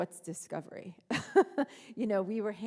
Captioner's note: laughing